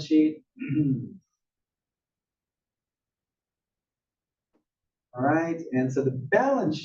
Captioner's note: cough